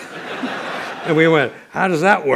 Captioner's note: laughter